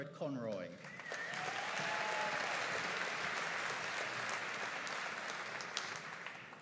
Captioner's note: audience cheering and applauding